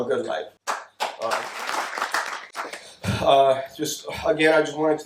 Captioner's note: audience claps